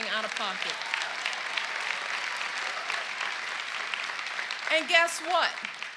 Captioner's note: cheers and applause